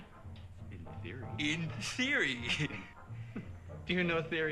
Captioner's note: chuckles